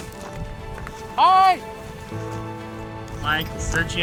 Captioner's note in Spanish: gritos